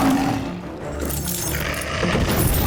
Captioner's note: growls